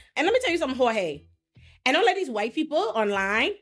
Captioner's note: none